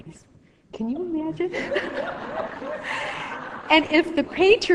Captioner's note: laughing